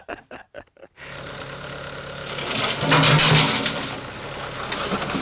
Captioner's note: both laughing; engine rumbling